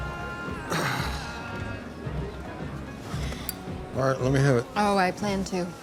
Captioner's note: sighs